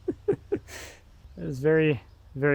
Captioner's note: men laughing